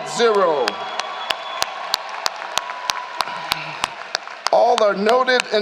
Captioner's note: applause